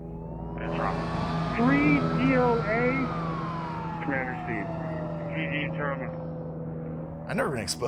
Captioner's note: radio chatter/sirens